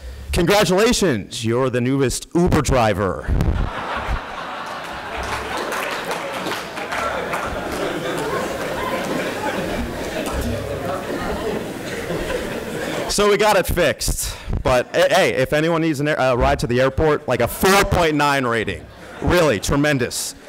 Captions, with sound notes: congratulations, you're the newest Uber driver. [ Laughter and Applause ] So we got it fixed but, hey, if anyone needs a ride to the airport like a 4.9 rating, really, tremendous.